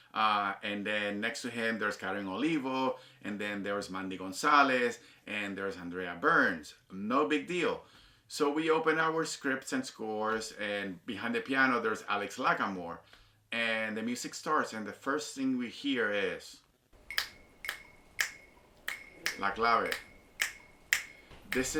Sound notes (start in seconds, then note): 17.0 fingers snapping rhythmically; 19.5 snapping rhythmically; 19.5 speaks Spanish